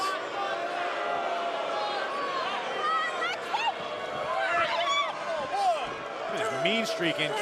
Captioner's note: crowd cheering